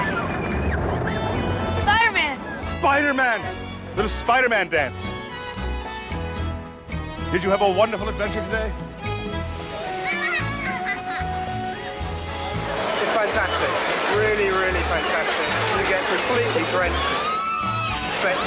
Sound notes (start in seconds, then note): 0.0 riders screaming; 9.8 rider screaming and laughing; 16.1 riders screaming